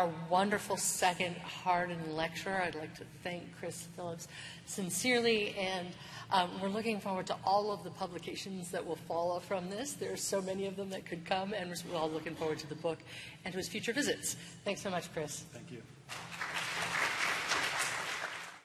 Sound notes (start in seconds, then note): 16.1 applause